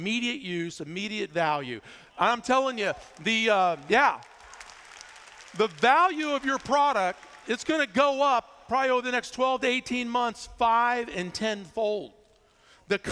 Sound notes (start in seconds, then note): 2.8 applause